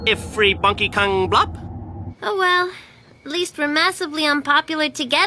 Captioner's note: speaking alien language